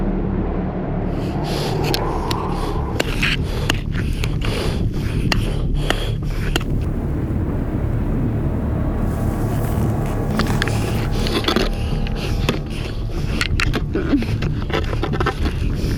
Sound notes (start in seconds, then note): 2.6 heavy breathing